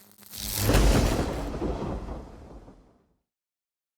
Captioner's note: thunder claps